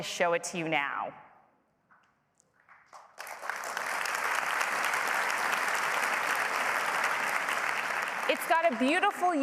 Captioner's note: applause